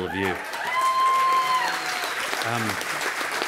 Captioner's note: applause and cheering